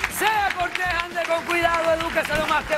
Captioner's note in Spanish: aplausos